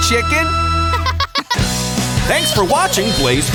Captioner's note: laughing